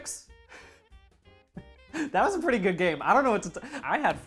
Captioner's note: laughing